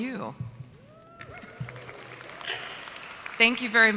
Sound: audience applauds

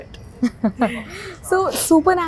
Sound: laughs

